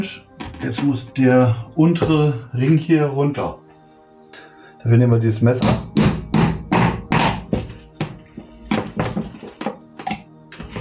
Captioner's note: knock